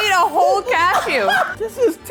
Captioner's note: laughing